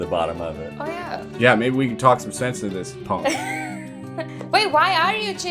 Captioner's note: laughter